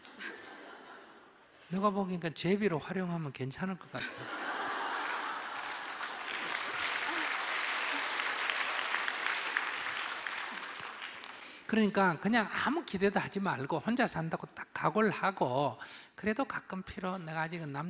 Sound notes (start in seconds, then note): 6.8 audience Laughter/Applause